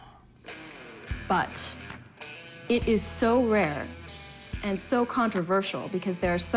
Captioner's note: exhales sharply